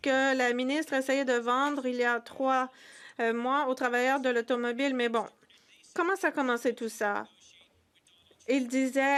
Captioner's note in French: voix de l'interprète